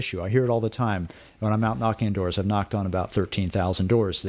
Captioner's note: Hablando ingl\s